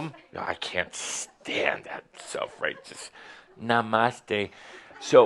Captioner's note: sarcastically